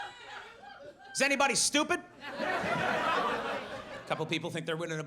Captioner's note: audience laughs